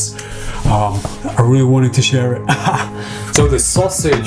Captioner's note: laughs